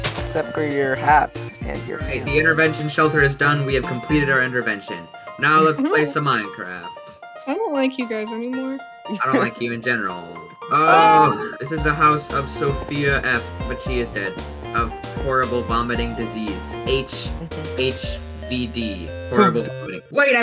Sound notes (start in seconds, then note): 10.8 everyone yelling